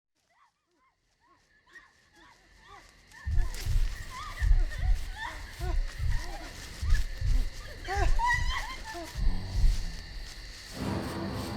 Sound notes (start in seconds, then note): 1.2 frantic cries; 3.2 heart beating; 5.3 running footsteps